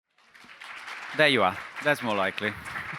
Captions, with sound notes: (audience applauds) - There you are.